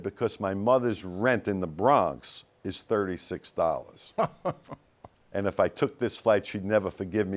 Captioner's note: laughs